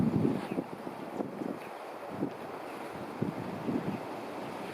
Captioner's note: wind rustling